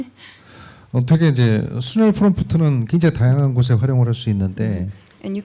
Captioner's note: speaking korean